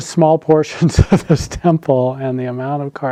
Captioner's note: laughs